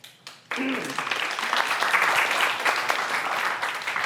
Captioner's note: audience applauds